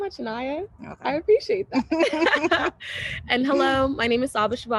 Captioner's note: both laughing